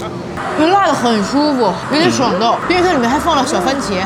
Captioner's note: gasping